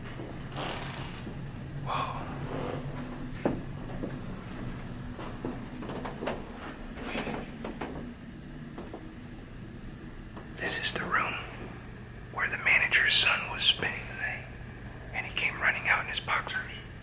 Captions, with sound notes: (WHISPERS) THIS IS THE ROOM WHERE THE MANAGERS SON WAS SPENDING THE NIGHT AND HE CAME RUNNING OUT IN HIS BOXERS